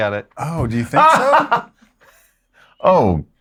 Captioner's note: laughs